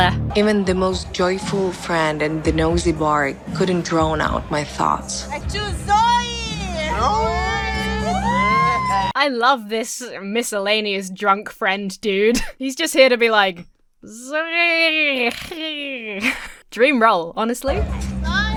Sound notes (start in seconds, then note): 8.0 patrons cheer